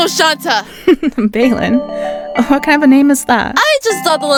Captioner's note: giggle